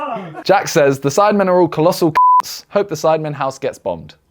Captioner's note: beep